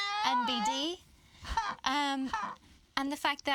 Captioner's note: exclaiming